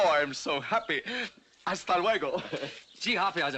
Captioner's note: in spanish